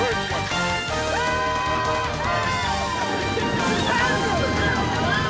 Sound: men cheering

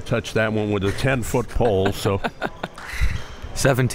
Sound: laughing

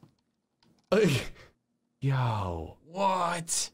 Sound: laughs

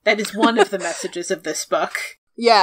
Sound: laughs

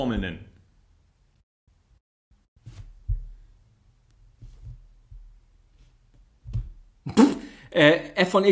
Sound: snorts

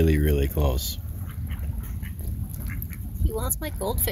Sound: quack quack

